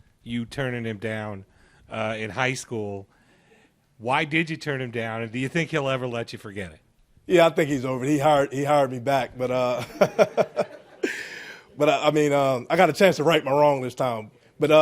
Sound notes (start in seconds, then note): 9.7 chuckles